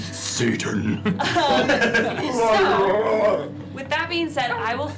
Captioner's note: deep voice; laughter